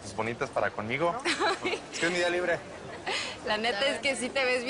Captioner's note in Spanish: Risas